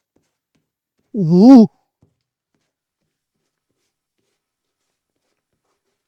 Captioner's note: silence